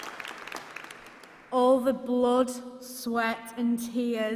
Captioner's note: applause